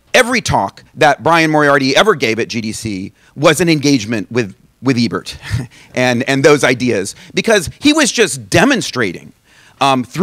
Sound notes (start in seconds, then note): none